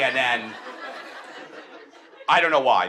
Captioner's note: audience laughs